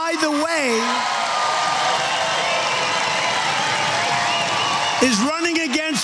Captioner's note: applause